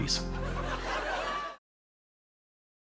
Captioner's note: studio audience laughing